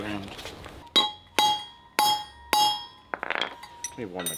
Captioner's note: metal clanking